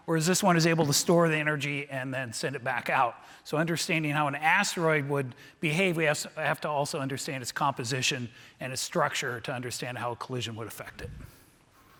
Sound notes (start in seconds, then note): none